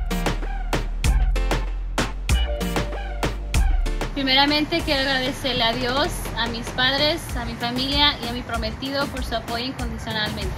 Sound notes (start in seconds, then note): 4.2 speaks in foreign language